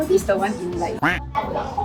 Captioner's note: quack